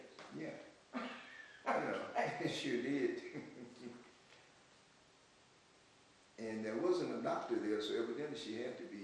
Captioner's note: laughs